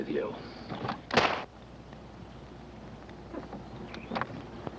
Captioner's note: loud slap